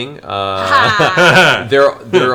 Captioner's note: laugh